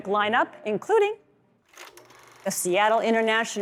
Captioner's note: film projector clicking